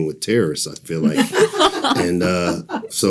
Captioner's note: participants laughing